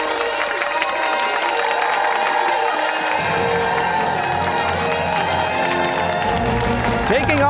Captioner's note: fanfare; cheers and applause